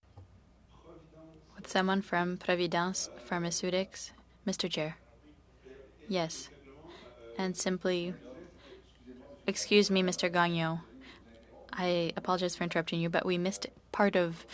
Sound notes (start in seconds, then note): 1.2 speaking French